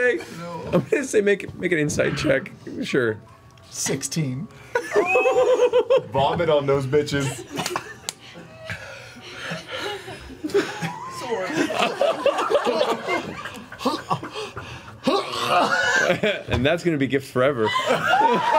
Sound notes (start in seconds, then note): 12.8 dry heaving